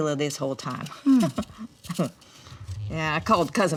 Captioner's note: Dory chuckles